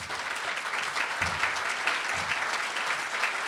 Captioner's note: audience applauding